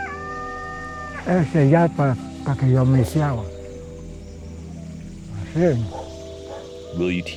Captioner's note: speaking Spanish